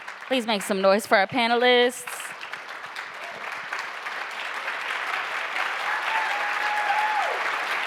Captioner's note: applause